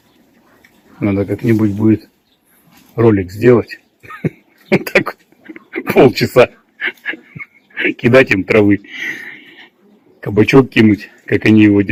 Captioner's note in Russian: смех